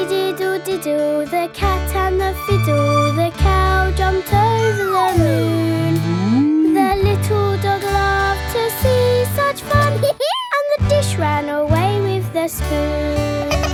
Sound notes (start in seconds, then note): 10.0 dog laughs